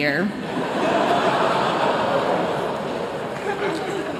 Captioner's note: laughter